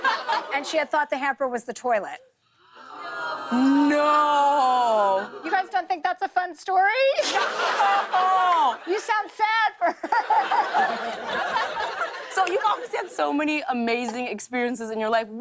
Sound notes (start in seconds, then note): 2.8 audience groans; 7.2 laughter